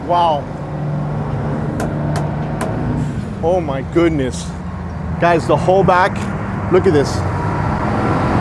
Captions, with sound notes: Wow. (boat creaks) Oh my goodness. Guys the whole back. Look at this.